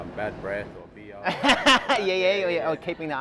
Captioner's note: laughs loudly